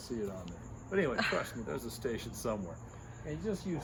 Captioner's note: camera operator laughs